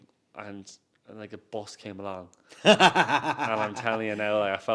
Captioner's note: host laughs